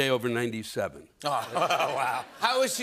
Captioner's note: laughter